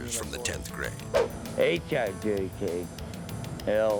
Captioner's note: air whoosh